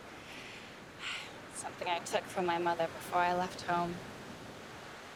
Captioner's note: sighs